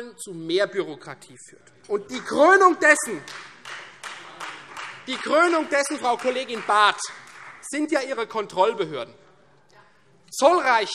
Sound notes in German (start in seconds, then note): 3.0 Beifall Freie Demokraten